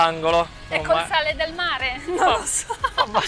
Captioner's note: laugh